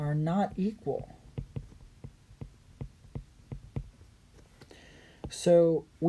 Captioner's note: writing